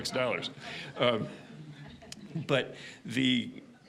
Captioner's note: audience laughing